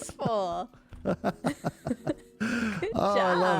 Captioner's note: laughs